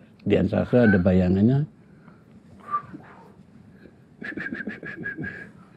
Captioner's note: whistling